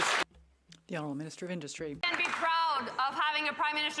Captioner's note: some Applause